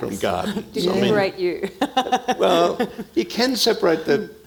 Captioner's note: laughs